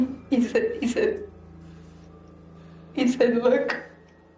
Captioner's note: sniffling